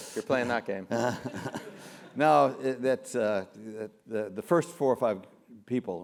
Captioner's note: laugh